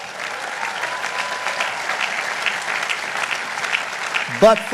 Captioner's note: audience applauding